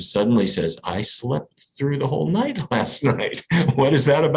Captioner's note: laughs